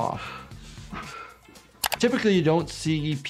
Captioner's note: IShowSpeed panting